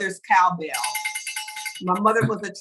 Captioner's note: bell rings